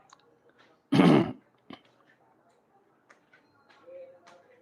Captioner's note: clears throat